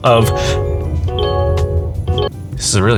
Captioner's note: car radio beeps